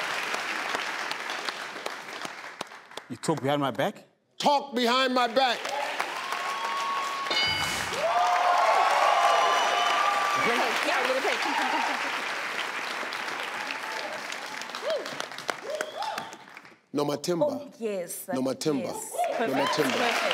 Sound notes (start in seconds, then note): 0.0 audience clapping; 5.7 audience clapping; 7.3 electronic dinging; 8.0 audience cheering; 11.4 audience clapping